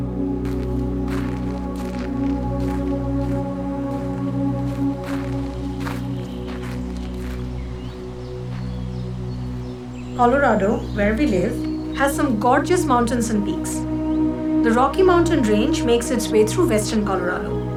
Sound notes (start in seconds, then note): 1.4 footsteps; 7.9 birds chirping